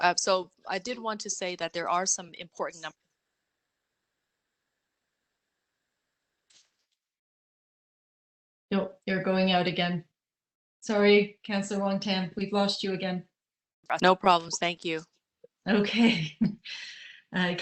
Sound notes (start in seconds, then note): 3.1 audio drops